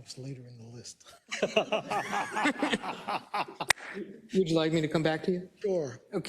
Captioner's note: laugh